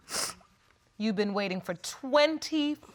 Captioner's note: sniffles